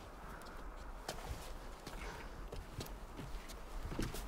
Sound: wind blowing

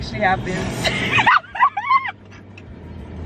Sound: laughs

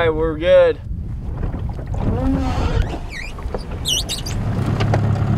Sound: boat sliding off trailer

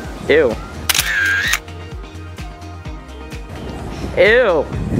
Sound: camera clicks

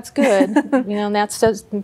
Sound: giggle

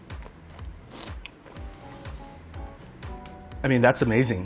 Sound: slurps

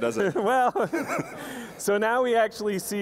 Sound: laugh

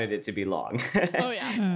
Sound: chuckles

